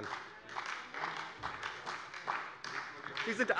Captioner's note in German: Beifall bei der SPD